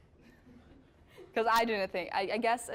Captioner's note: audience chuckling